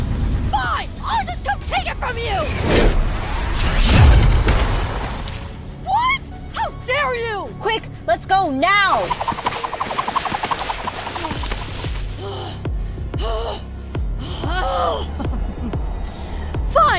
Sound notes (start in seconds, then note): 11.3 intense breathing; 15.2 laugh